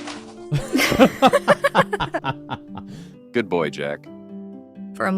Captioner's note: laughing